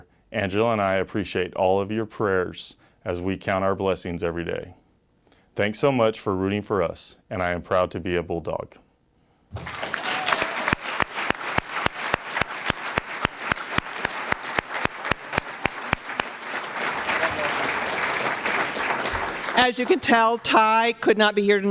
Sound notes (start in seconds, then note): 9.5 applause